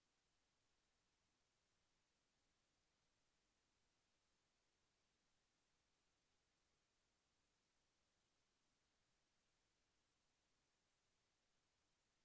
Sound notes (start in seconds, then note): none